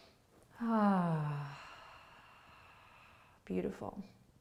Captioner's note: sighs